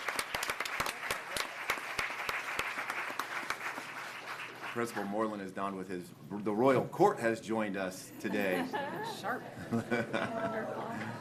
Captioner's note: applause